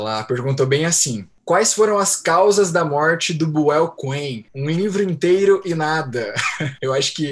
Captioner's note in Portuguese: risada